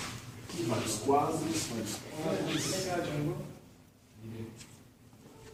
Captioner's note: someone spoke in Ukrainian